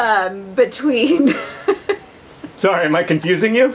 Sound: laughs

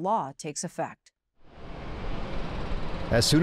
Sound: engine revs

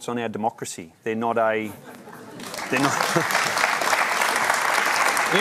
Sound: laughter and applause

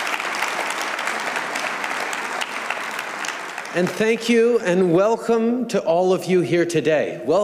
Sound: applause

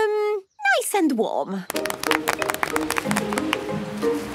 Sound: applause

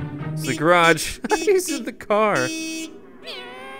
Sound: laughter

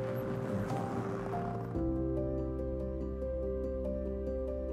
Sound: car rumbles; mellow music

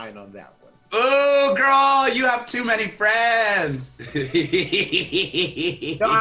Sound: laughs

